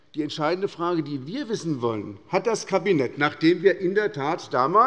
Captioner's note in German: none